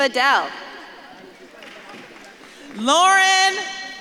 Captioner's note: audience claps and cheers